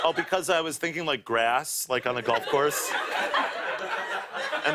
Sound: laughter

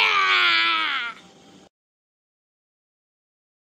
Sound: 6 Screaming

